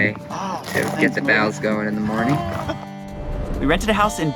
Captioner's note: laughter